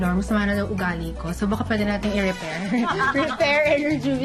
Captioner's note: laughs